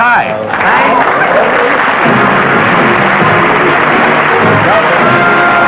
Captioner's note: applause